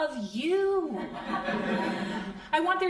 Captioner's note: crowd laughing